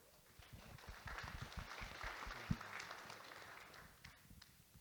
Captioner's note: audience Applauding